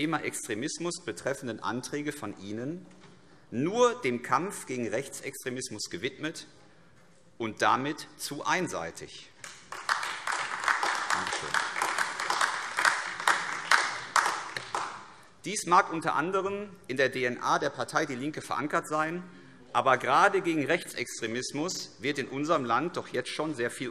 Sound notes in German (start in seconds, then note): 9.4 Beifall AfD